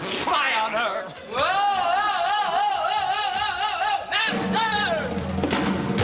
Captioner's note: Biondello approaches, screaming